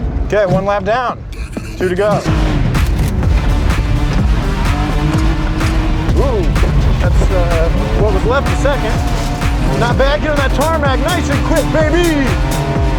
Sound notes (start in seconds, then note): 3.0 car roaring; 3.0 upbeat intense dance music